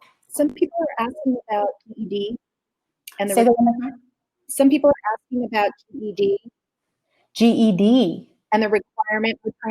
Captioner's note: technical glitch